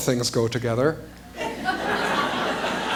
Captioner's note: laughter